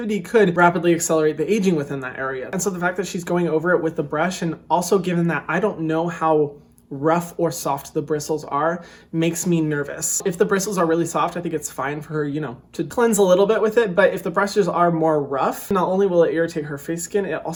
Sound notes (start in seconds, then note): none